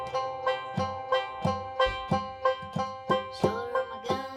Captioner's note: guitar strums; finger tapping